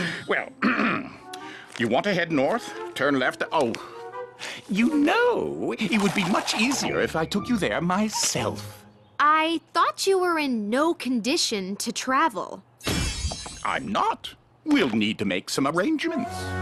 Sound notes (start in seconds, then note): 12.9 poof